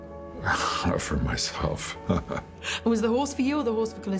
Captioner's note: Harrison chuckling